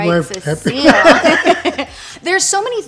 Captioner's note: everyone laughs